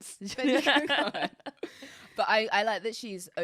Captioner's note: both laughing